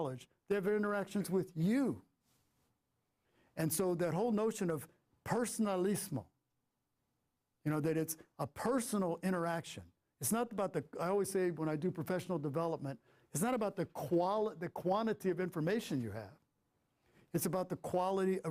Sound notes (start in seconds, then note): 5.4 foreign language